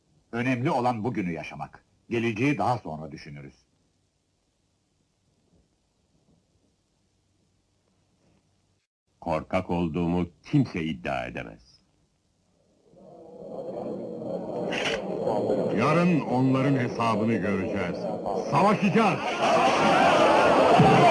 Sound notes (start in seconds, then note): 12.6 crowd murmuring; 19.2 crowd